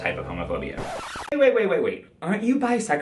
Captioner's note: record scratch